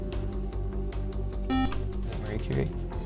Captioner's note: buzzer